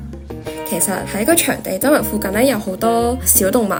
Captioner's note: Cantonese